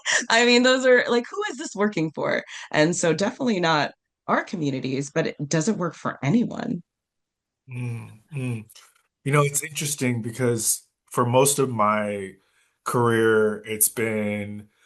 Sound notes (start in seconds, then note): 7.7 nods and hums in agreement